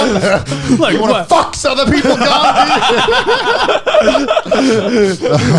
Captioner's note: laughing